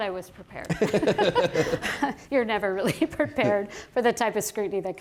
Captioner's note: laughter